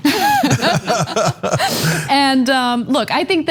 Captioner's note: laugh